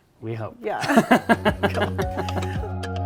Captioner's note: laughing